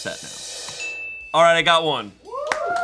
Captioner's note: bell chimes